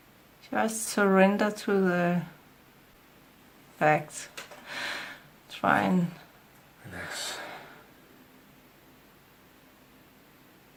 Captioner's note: he is taking a big breath